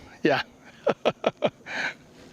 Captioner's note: laughter